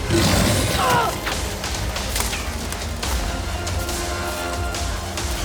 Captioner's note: groaning; growling